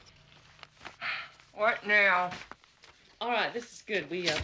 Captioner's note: sighs